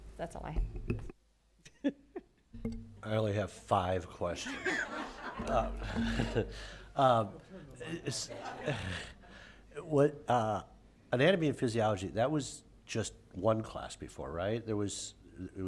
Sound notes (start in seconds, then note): 4.4 laughter